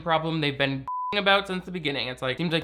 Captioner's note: beep